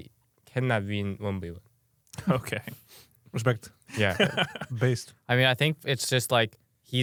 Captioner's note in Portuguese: risos